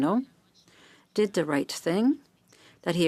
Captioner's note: speaking French